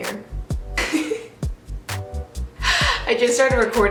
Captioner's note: laughing